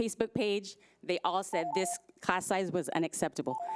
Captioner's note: timer trills